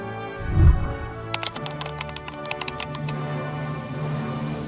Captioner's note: whooshing sound; keyboard clicking